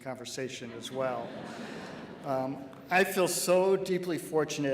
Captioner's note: laughing